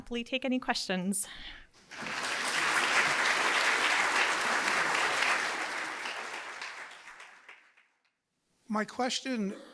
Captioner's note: applause